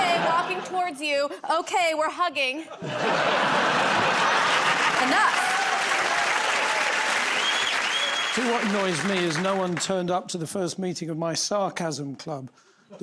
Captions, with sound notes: "Okay, walking towards you." "Okay, we're hugging." [ Laughter ] Enough. [ Cheers and applause ] -Do you know what annoys me is no one turned up to the first meeting of my sarcasm club,